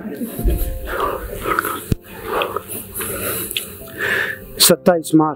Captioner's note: sigh